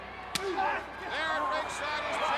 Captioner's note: chop striking